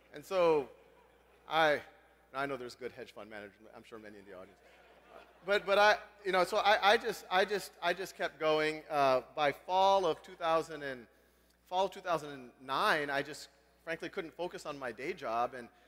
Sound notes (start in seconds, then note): 4.6 laugh